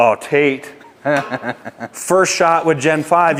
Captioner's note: laughs